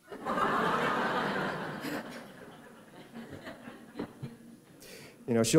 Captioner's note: laughter